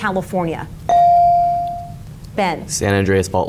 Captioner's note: bell dings